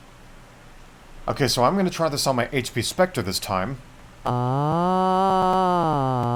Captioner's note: weird voicebox noises again